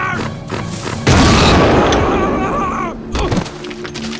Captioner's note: screams